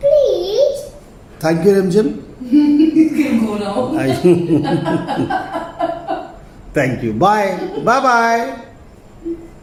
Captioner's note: laughter